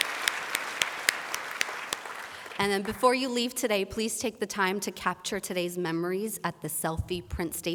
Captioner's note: applause